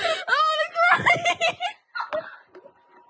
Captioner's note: laugh